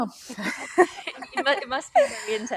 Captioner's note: laughs